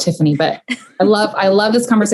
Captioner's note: laughing